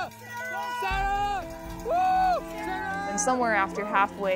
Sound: cheering

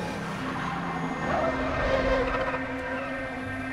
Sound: tires screeching

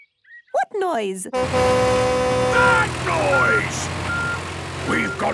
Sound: tractor noise; screaming

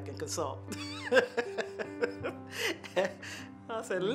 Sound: laughs

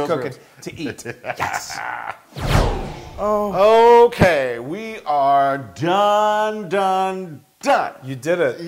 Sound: laugh

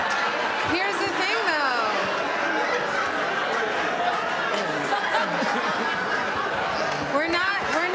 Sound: laughter and talking

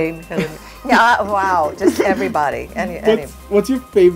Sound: giggling

